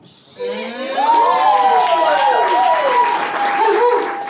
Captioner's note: audience cheers and applauds